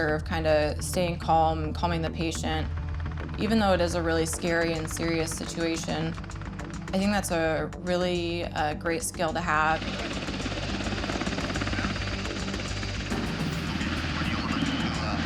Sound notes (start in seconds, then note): 10.7 helicopter blades chopping